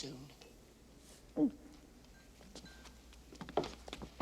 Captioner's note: gulps